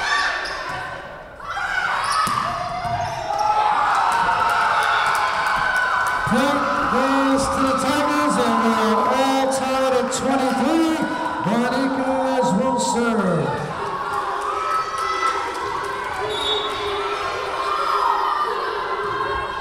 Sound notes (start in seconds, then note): 4.7 Tigers cheering; 16.2 whistle blowing